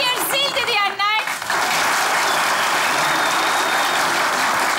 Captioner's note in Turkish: Alkış ve ıslık sesleri